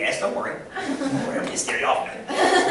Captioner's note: laughter